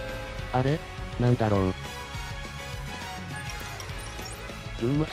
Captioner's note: ding dong